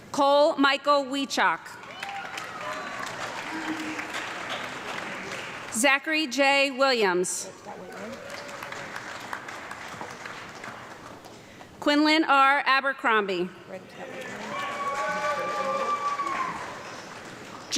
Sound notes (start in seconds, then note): 1.8 audience clapping; 7.7 audience clapping; 14.1 audience clapping and cheering